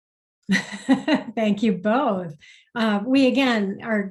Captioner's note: laughs